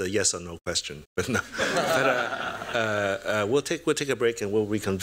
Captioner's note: laughter